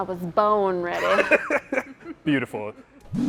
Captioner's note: both laughing